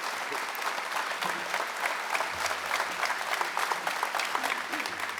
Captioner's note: audience clapping continues